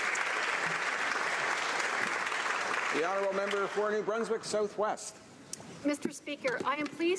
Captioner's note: some Applause